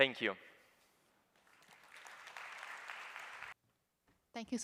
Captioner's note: applause